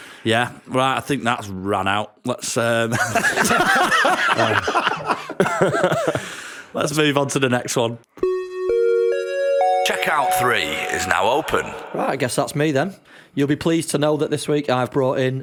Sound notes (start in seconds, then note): 2.9 laughter; 6.6 chime